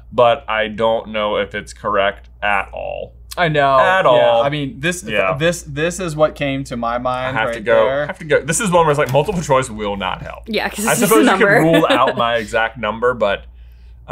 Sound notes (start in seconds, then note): 10.9 laughs